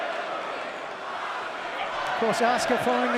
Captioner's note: crowd cheering